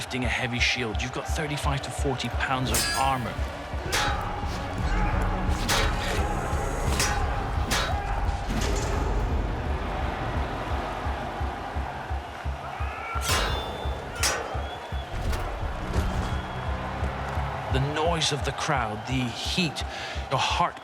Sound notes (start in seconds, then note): 3.8 weapons clashing